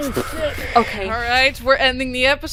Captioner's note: splutters